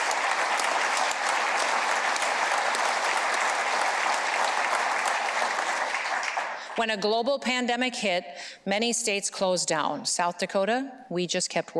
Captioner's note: applause